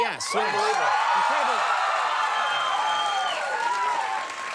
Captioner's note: audience cheers